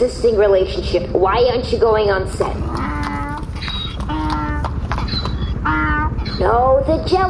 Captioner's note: braying